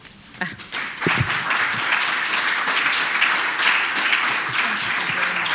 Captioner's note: audience applauds